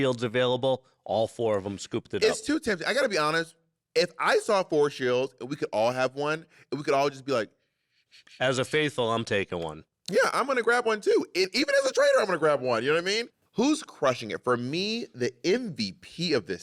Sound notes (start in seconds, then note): 9.4 shushes